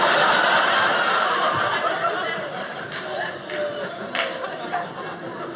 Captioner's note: audience laughing